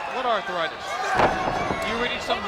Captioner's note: blows thudding